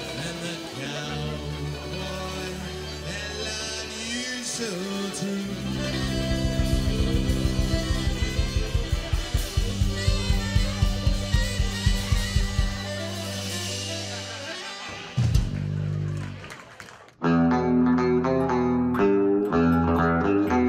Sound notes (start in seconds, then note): 14.1 patron laughing; 14.6 people applauding